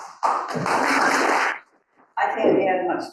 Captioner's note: audience applauding